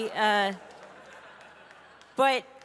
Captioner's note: audience laughing